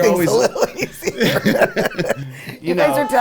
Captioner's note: both laughing